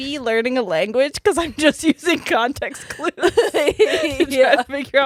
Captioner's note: laughs